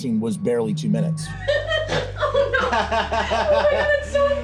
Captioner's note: more laughter; laughter into a snort